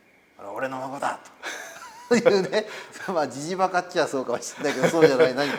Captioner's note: laugh